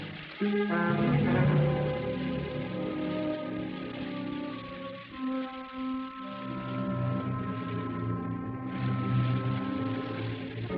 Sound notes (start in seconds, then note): 0.5 suspenseful music; 6.6 fuse sizzling